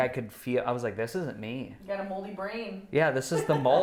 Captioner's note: laughs